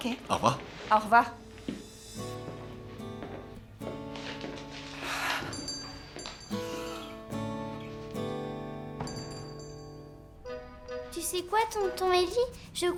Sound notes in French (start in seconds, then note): 3.6 musique douce; 5.4 sonnerie de la porte